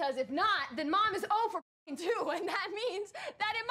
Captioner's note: laughs